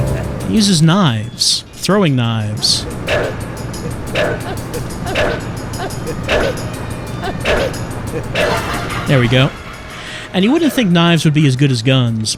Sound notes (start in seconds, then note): 2.6 knives whistling through air; 5.7 laughter of pain